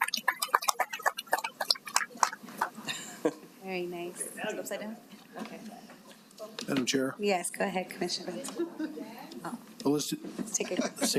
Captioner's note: applause